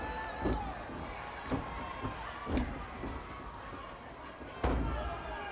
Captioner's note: footsteps thudding